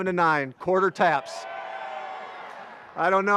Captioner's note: graduates cheer